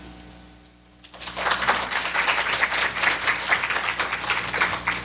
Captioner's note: applause